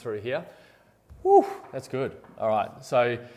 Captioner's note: sighs